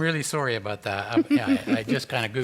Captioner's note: chuckles